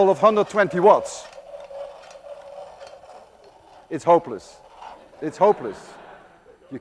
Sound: more laughter

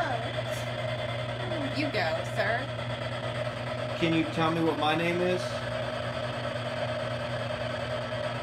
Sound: spirit box scanning

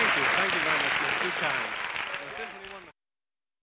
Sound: audience applauding

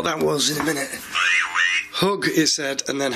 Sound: synthesised voice vocalising

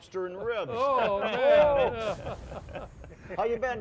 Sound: laughing

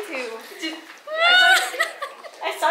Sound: cries

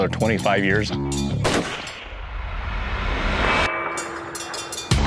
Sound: rifle firing

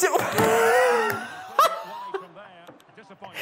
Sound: laughs

